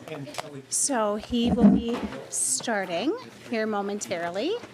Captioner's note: gavel